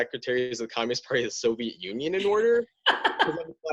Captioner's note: laughter